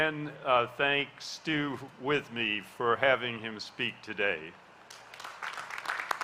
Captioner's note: applause